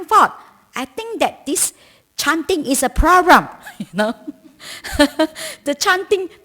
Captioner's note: laughter